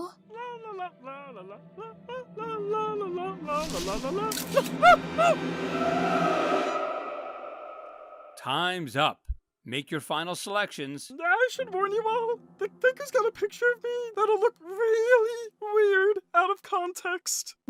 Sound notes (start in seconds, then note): 0.1 singing; 4.3 camera snap